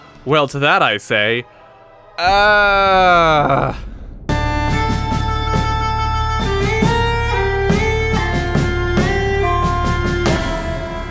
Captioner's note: strained, frustrated screaming